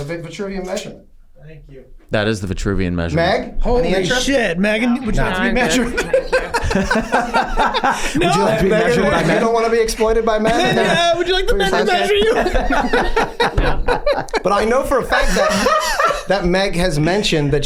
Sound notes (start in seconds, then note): 5.8 laughs; 7.1 gang laughing; 13.0 gang laughs